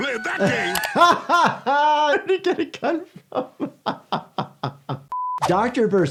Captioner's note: laughs